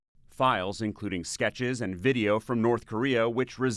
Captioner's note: voice-over